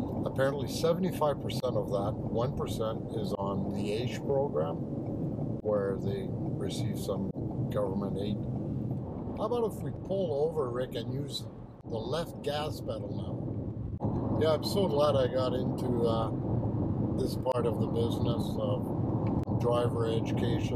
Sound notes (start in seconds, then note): 5.0 turn signal clicks; 13.8 tires rumble